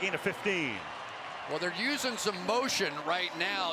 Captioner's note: cheering